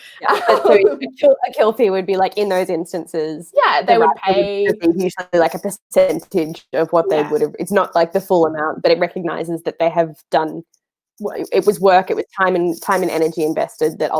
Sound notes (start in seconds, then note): 0.1 laughing; 6.9 murmurs